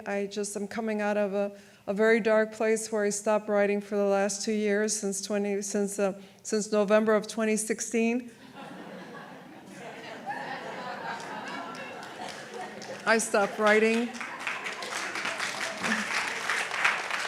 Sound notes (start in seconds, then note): 7.9 audience laughs; 15.0 audience applauds